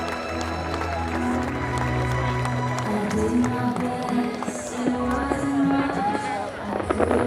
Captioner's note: cheers and applause